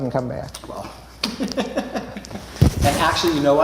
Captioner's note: chuckles